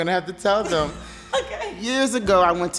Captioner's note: laughs